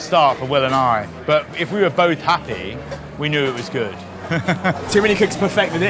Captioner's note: laughs